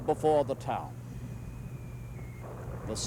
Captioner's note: mortar fire whistling, booming